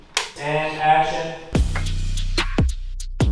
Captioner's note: clap